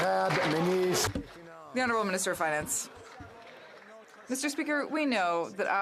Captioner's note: some Applause